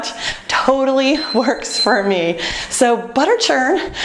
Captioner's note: beeping